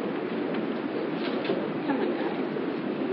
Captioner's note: Sayfaları çeviriyor